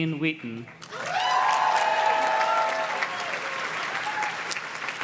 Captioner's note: audience cheers and claps